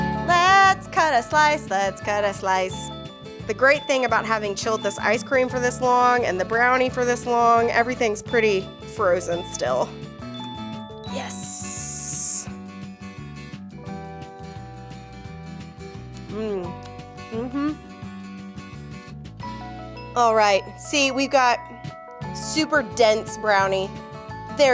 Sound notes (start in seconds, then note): 13.1 optimistic music; 17.3 humming